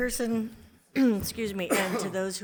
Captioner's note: clears throat